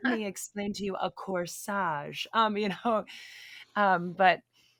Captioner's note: laughs; chuckling